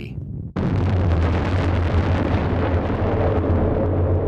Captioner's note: space booming